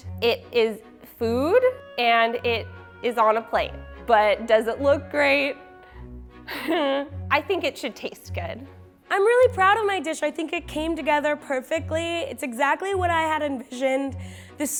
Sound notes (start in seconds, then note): 5.8 exhales